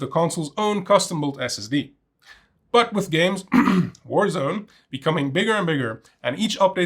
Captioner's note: cough